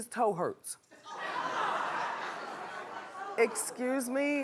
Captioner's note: laughing